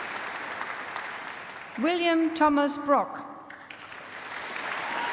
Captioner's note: applause